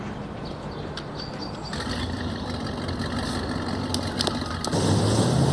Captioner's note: boat engine starting